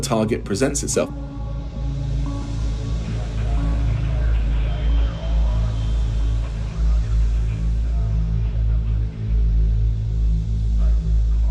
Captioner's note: soundbite of drone communications